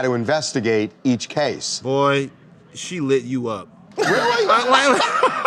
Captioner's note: laughter